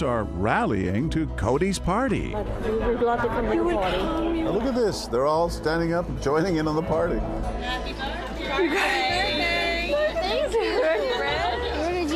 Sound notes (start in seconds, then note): 6.4 crowd; 11.1 crowd laughs